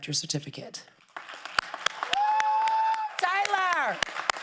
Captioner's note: crowd applauding